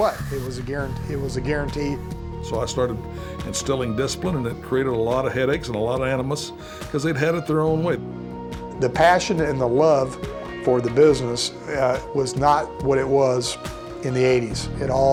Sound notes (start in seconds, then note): none